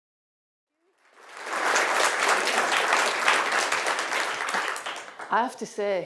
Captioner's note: audience applauding